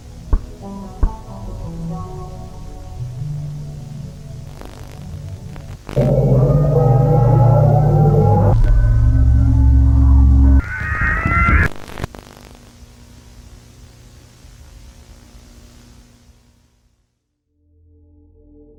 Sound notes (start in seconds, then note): 6.1 eerie ambient music; 10.8 door creaking